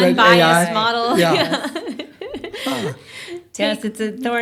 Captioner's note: laughter